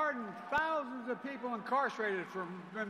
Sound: cheers and applause

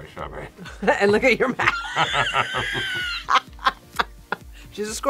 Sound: both laugh

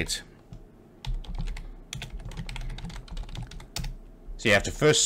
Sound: keyboard clicks

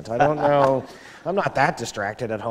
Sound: laughter

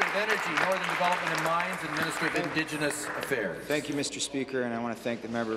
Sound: applause

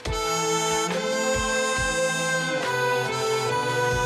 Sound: none

